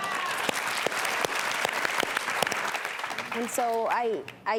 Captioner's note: audience claps